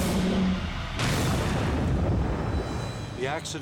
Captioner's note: crane booming